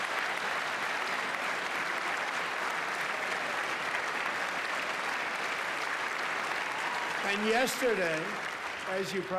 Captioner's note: applause